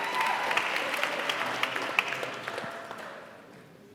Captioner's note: cheering